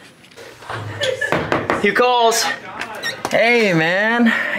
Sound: fist knocks

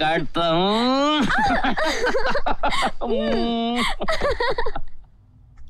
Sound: laughs

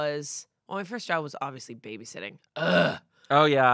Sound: groans

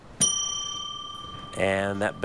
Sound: bell dings

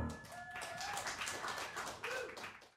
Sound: audience cheering; audience applauding

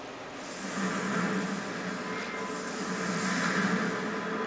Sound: digital whooshing sounds on TV

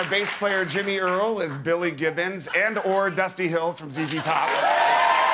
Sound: cheers and applause

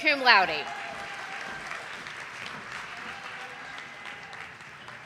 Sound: audience applauding

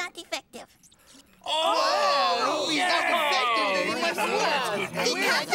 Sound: cheering and exclaiming

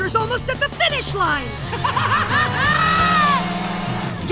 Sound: laughing

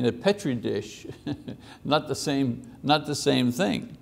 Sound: chuckles

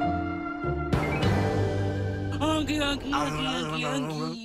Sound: alien parents make baby noises

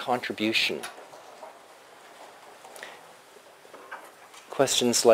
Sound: pause

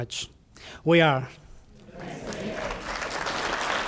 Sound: crowd; applause

